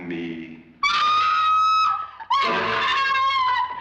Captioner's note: screaming